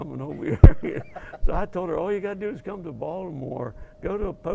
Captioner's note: laugh